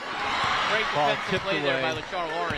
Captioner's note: applause